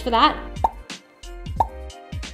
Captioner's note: popping noise